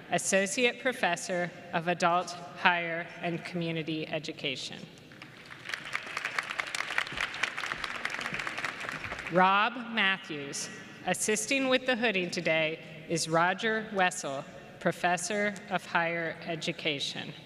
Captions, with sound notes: Associate Professor of Adult Higher and Community Education. [ Applause ] Rob Matthews. Assisting with the hooding today is Roger Wessel, Professor of Higher Education.